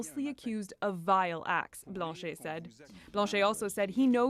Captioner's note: speaking French